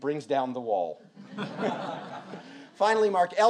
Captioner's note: audience laughs